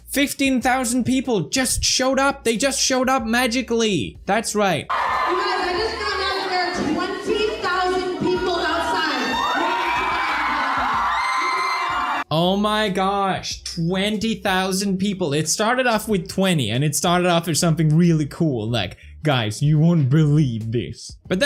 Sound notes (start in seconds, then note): 5.0 fans screaming